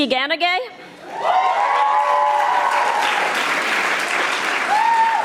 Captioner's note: audience applauding